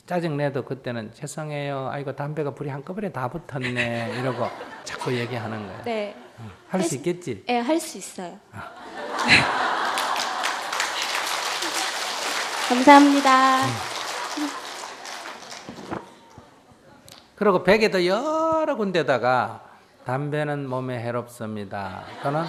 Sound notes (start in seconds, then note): 8.6 audience Laughter; 9.1 applause